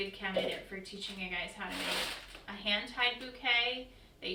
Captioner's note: crinkling